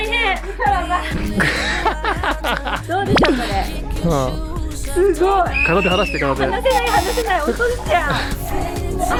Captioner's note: laughing